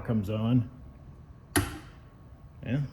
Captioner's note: switch clicks